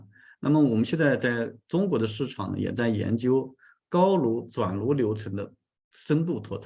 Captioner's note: continues to speak in Chinese